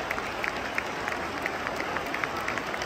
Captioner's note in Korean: 홈팬들의 박수갈채